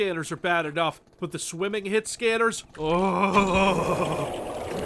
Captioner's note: groans in frustration and dread